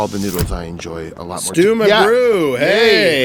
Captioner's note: door hissing open